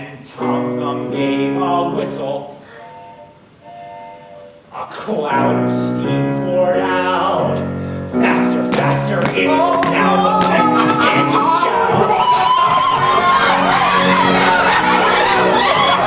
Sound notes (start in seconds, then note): 3.2 train horn whistles; 12.5 crowd shouts excitedly